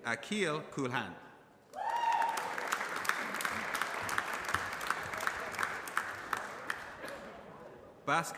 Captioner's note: applause